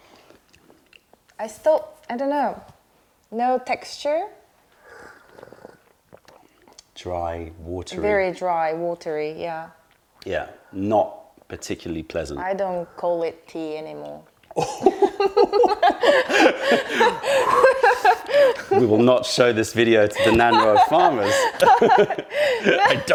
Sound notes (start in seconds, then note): 2.7 sips tea; 4.7 sips tea; 14.6 laughter